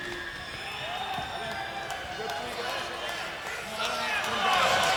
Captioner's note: crowd cheering